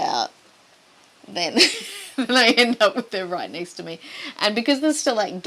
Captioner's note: laughing